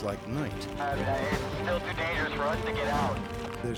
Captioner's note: man on radio